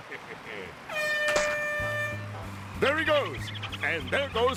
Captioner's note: air horn blows